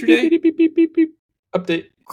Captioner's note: mimics beeping